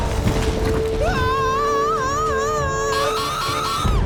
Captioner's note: dramatic music; screaming